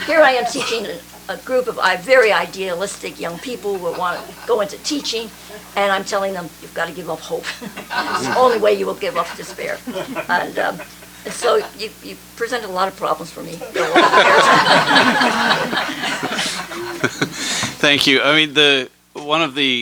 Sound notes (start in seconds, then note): 13.6 laughter